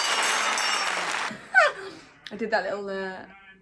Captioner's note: laughs